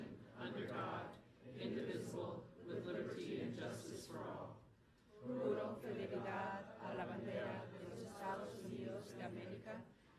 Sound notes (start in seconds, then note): 5.5 speaking foreign language